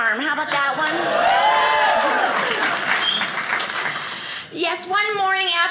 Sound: audience cheers

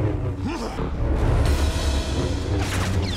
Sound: grunting

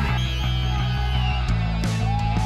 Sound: whistle

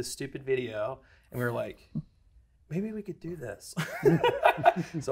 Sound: laughs

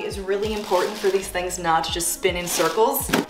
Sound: none

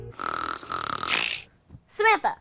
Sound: snoring

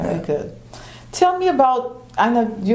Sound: none

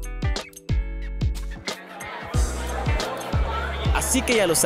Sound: people chatting

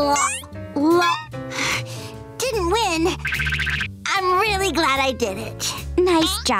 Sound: sighing

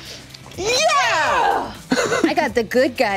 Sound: cheering

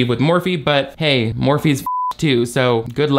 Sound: beep

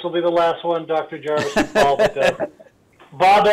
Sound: laughs

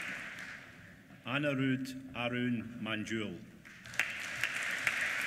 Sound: applause

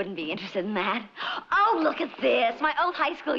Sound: gasps

